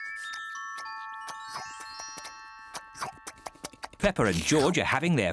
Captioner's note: munching